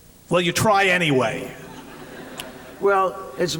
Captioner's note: laughter